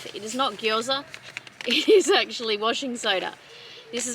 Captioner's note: laughing